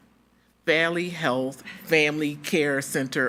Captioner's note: attendees laughing